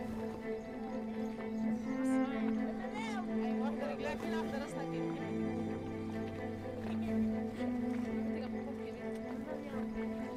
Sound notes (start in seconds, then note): 0.8 overlapping chatter